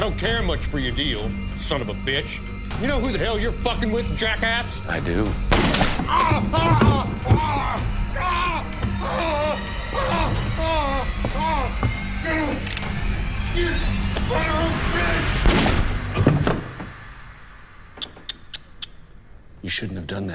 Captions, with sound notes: you son of a bitch. You know who the hell you're fucking with, jack ass? - I do. (gunshot) (Zebediah groaning in pain) (dramatic music) (cocks gun) (gun fires) You shouldn't have done that.